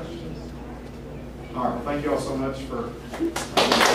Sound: applause

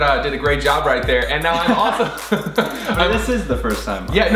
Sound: laughing

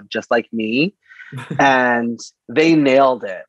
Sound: laughs

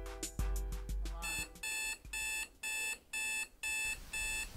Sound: alarm buzzing

